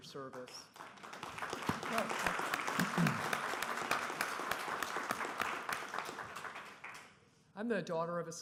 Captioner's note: applause